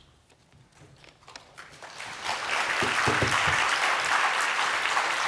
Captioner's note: applause